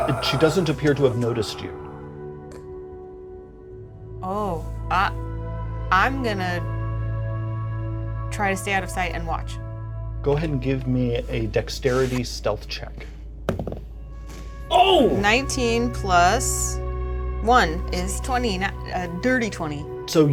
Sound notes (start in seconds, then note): 13.4 die thuds